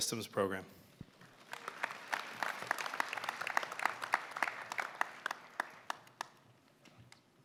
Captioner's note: applause